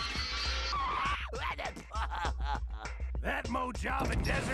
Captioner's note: laughing